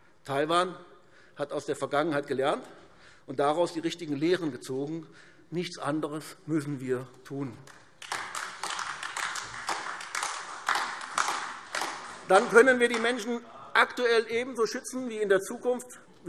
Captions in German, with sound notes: Taiwan hat aus der Vergangenheit gelernt und daraus die richtigen Lehren gezogen. Nichts anderes müssen wir tun. [Beifall AfD] Dann können wir die Menschen aktuell ebenso schützen wie in der Zukunft.